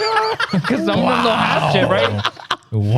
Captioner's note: laughing